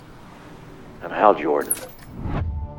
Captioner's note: tv clicks off